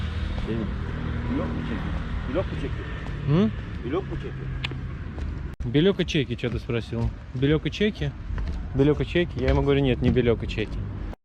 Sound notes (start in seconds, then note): 4.6 clicking sound, meaning refusal